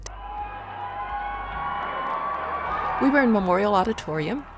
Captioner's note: applause